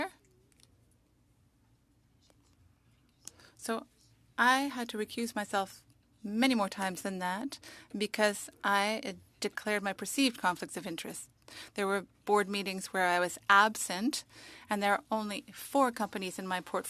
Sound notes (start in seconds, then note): 2.8 speaking French